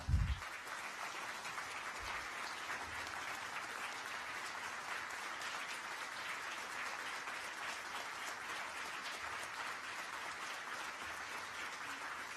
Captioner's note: applause